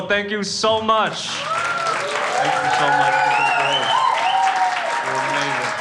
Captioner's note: crowd applauding